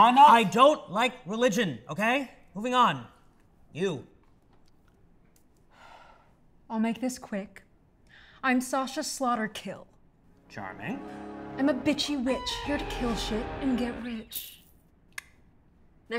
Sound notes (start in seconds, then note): 5.7 exhales; 14.6 clicks tongue